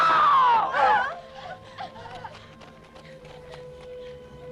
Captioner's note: wives whimper